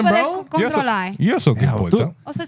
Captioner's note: speaking Foreign Language